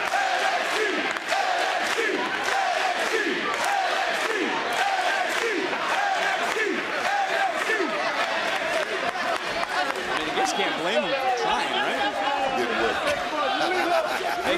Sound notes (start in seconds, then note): 5.1 crowd cheers; 6.8 crowd chants "nxt"